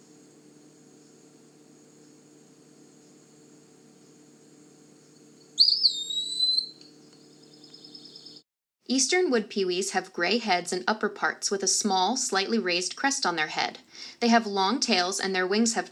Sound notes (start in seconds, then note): 0.2 short pause; 5.4 pewee singing